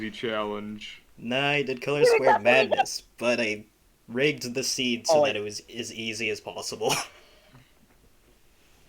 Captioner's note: laughs